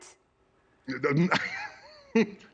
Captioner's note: laughter